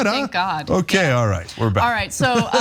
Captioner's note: laugh